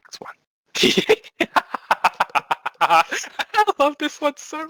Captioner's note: laughs